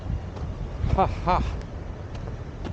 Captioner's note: haha